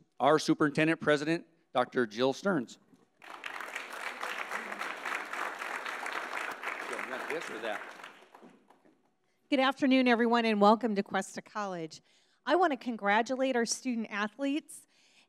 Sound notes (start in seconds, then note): 3.2 audience applauds